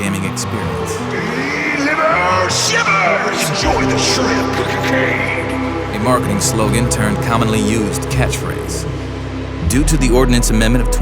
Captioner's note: honk-honk